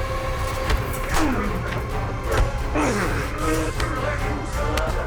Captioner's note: both grunting